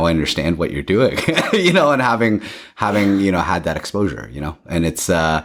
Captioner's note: laughs